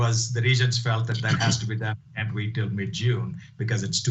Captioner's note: voice cuts out